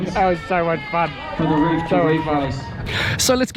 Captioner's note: cheering crowd